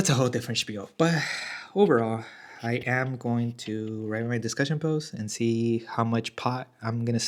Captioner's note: sighs and gasps